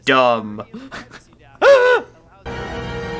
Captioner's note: laughs in privacy theater